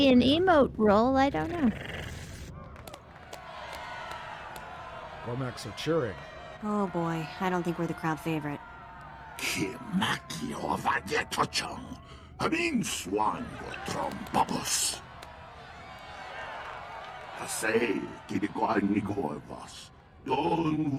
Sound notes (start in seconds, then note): 1.4 growling; 4.1 cheering; 9.6 speaking foreign language